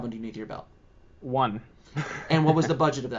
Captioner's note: chuckles